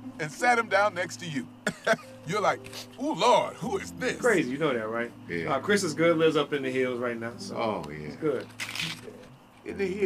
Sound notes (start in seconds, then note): 1.6 chuckles; 2.6 sniff